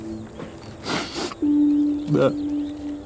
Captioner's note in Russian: всхлипывает